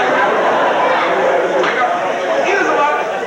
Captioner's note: crowd laughs